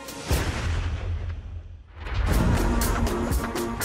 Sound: gun shot

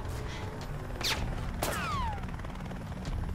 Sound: gunfire

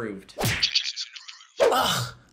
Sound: splat; voice-over

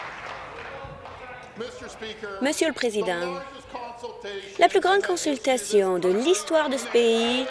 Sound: applause

